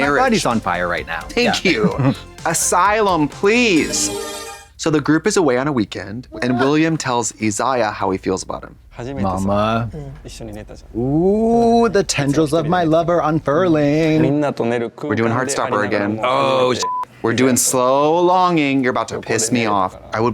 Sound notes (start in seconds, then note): 3.9 bright chime; 16.8 beep